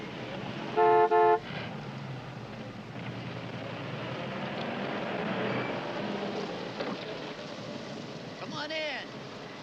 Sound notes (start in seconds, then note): 0.7 horn honks